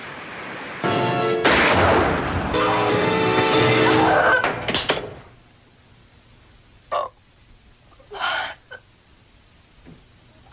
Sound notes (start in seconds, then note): 1.4 gunshot; 6.2 breaking through door